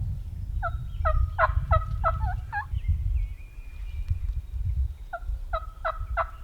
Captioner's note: hunters and turkeys call to each other